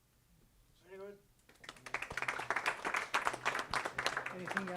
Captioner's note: clapping